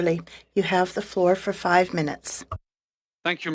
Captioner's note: speaking in French